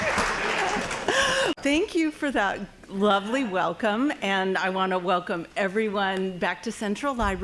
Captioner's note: applause; laughing